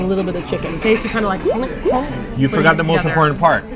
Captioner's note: two bloopy bite noises